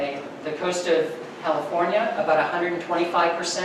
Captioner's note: none